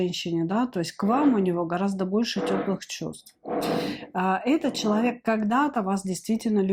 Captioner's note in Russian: фыркает